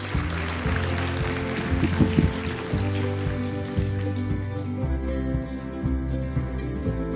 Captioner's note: applause and music